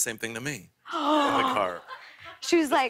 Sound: gasps

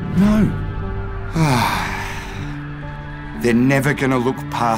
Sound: sighs

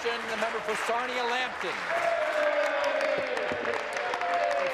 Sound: applause

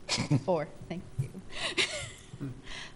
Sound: laughs

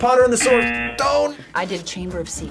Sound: buzzer

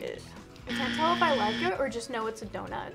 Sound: buzzer rings

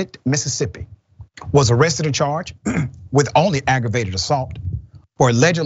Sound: cough

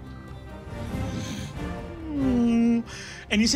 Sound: groaning

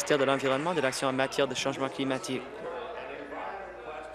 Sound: applause

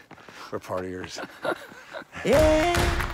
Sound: Owen laughing

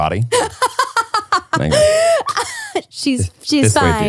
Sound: laughing

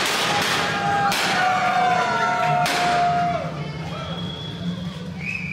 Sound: cheers

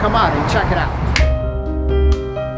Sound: clapper claps; soft piano music

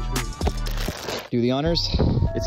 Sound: rustling sound

